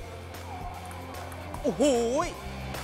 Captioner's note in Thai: เสียงตีปิงปอง